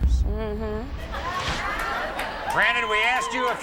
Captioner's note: audience laughs